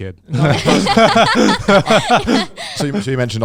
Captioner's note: all laughing